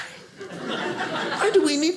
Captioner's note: audience laughing